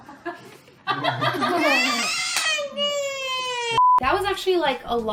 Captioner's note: people laughing and child crying